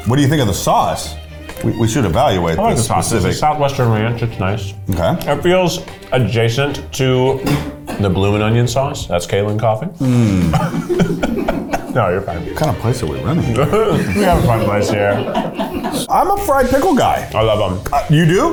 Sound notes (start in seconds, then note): 10.1 all laugh; 15.6 crew laughs